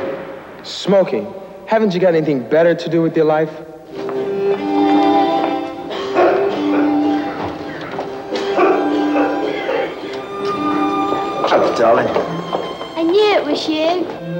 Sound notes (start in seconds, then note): 4.2 coughing